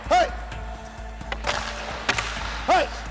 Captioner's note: stick slapping